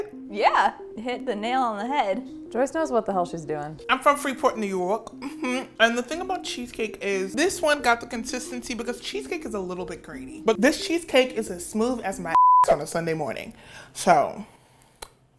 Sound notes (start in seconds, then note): 12.3 beep